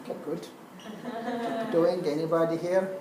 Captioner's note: laugh